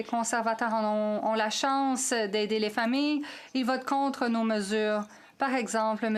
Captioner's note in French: voix de l'interprète